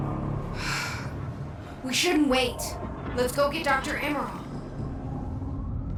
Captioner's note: sighs